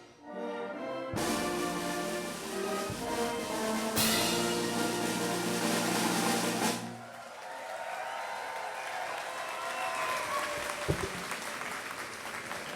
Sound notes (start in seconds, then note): 7.0 applause